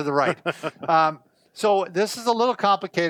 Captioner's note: laughing